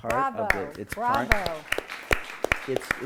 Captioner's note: applause